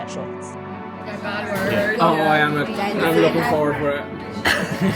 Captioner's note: background noise and conversation